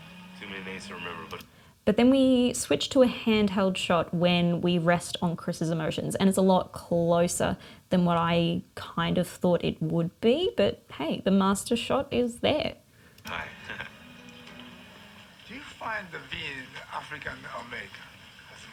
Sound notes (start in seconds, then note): 13.3 laughing